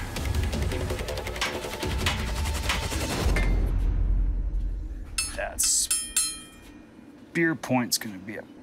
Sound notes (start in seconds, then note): 0.8 hammering; 5.1 clanging